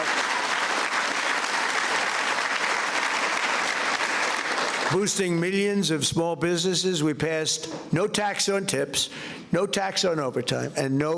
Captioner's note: applause